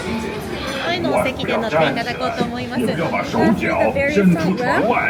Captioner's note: guide speaking Japanese